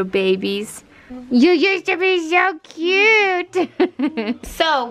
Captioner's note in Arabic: يضحك